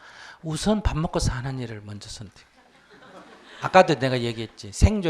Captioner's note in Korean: 청중 웃음